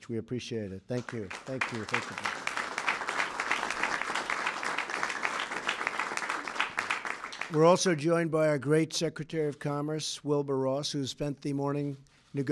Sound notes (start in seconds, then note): 5.5 applause